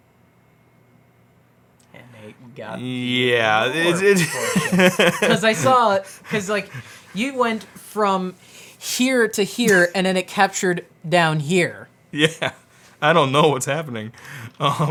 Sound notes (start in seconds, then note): 3.1 laughs; 14.3 laughs